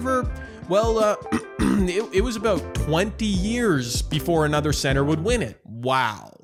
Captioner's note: clears throat